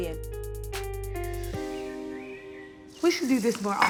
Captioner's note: birds chirping